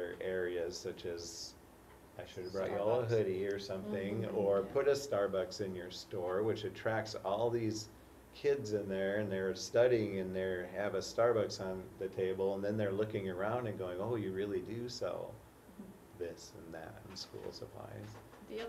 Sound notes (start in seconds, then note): none